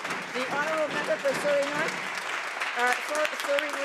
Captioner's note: some Applause